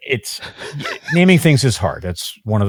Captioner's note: laughs